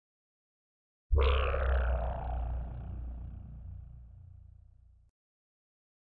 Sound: simply spooky sound

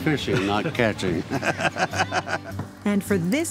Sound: laughs

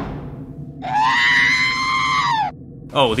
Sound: R3 scream

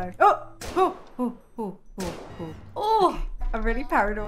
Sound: moans nervously

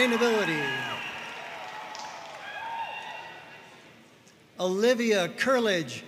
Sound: audience cheering and applauding

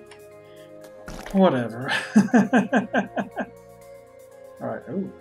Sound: laughs

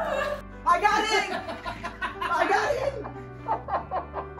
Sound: laughter

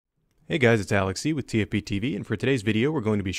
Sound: voiceover

